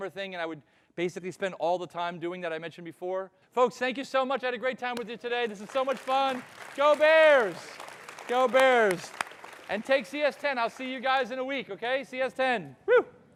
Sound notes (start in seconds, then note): 5.3 audience applauding